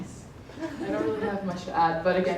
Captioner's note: laughs